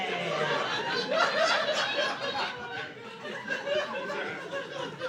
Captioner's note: laughter